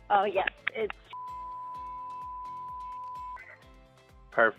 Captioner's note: beeping sound